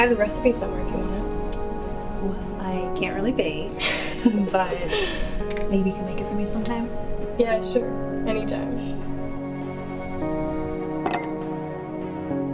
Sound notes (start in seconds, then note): 3.7 laughs; 11.1 glass clinks